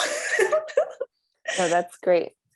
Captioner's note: laughs